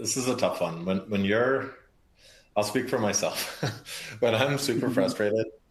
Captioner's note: laughs